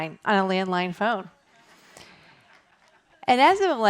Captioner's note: laughter